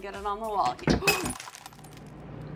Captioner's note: glass breaking